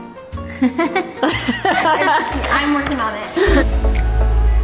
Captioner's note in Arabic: ضحك